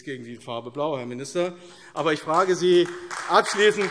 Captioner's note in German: Beifall AfD